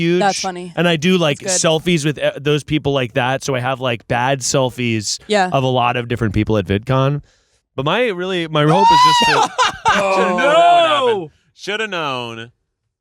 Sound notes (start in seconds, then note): 8.6 screaming